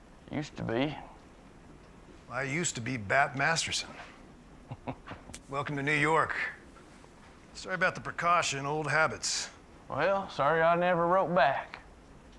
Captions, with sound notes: USED TO BE. WELL, I USED TO BE BAT MASTERSON. [CHUCKLES] WELCOME TO NEW YORK. SORRY ABOUT THE PRECAUTION, OLD HABITS. WELL, SORRY I NEVER WROTE BACK.